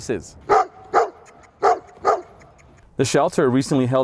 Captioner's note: barking